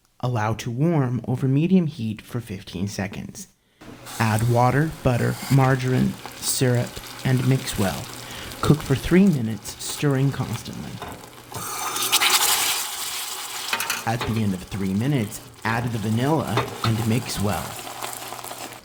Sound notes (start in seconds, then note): 11.5 mixture sizzles